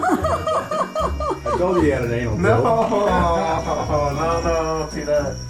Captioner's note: laughter